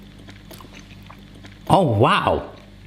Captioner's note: chewing